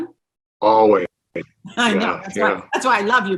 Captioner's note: laughing; both laughing